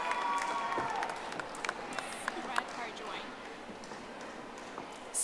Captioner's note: audience applauding